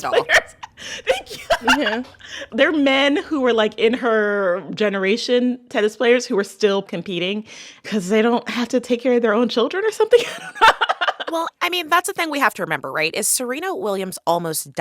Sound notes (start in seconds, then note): 0.0 laughter; 10.1 laughter